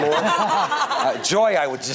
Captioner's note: people laughing